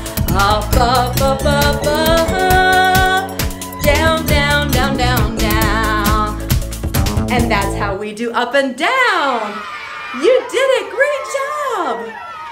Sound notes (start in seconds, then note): 9.4 children cheering